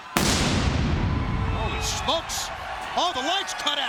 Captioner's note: pyro booms